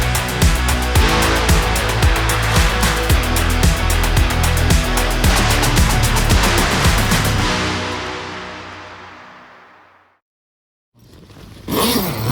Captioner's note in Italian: Applauso